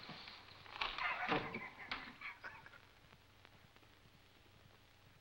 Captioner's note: Axford chuckles